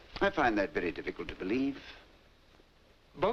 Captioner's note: none